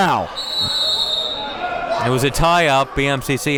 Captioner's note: whistle blows